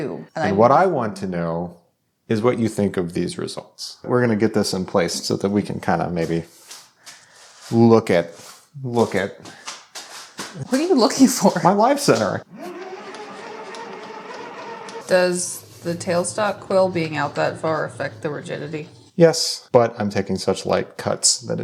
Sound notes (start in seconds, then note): 8.9 footsteps shuffling; 12.4 machinery whirring